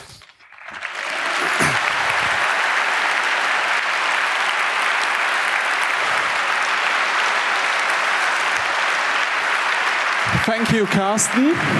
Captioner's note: applause